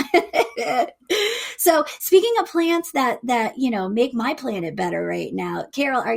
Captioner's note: chuckles